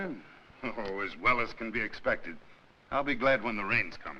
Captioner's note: chuckles